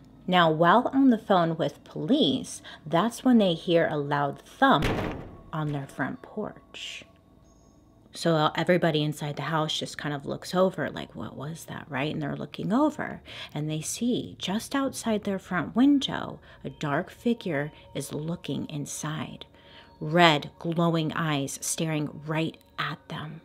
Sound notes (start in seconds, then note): 4.8 crashing bang